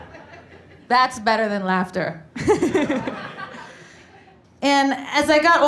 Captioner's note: laughs